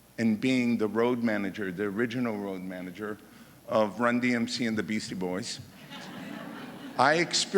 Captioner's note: laughter